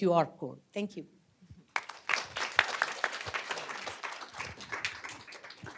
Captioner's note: applause